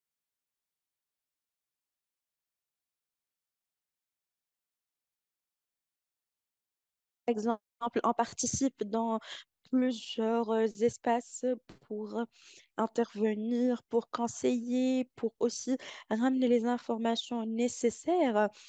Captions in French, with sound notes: [silence] Exemple, on participe dans plusieurs espaces pour intervenir, pour conseiller, pour aussi ramener les informations nécessaires